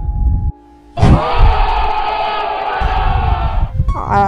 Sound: shocked black people soundbite

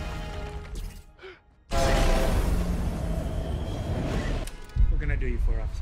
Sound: rocks crashing; gasps; train honks

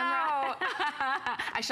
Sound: laughter

